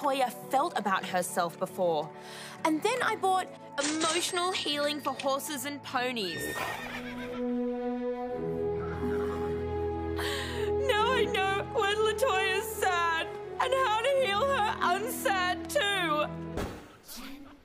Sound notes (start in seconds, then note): 8.8 cries